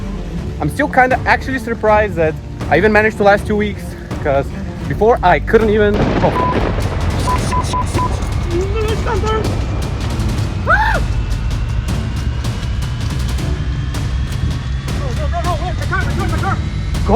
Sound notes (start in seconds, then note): 6.0 loud thunder; 8.5 panic sounds